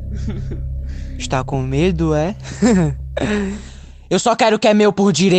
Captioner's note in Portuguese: riso malicioso